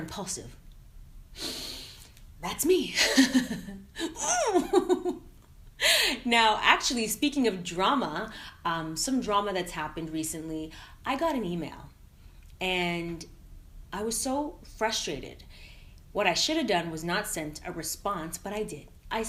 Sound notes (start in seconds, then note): 4.0 laughing